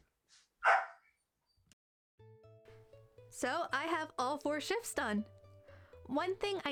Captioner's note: Maisie’s puppy yip